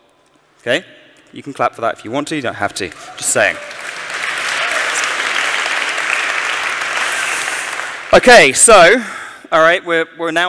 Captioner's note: applause